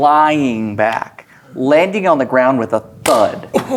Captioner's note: claps hands